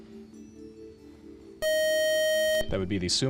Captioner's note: time out buzzer